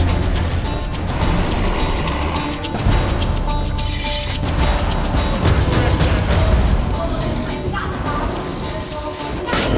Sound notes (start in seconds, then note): 1.1 roar